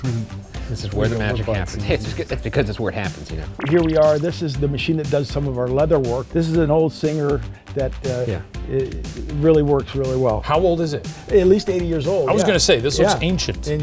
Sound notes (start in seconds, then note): 3.5 digital pulsing